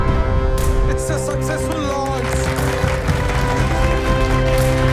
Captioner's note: applauses